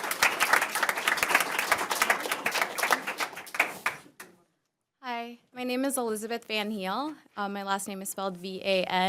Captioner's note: applause